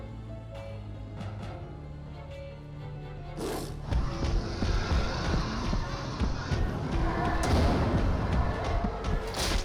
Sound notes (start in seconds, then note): 3.4 roars